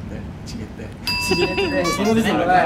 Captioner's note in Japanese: 笑い声